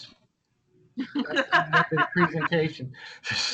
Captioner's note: laughter